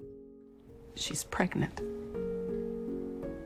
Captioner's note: voiceover